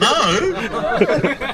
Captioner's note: laughing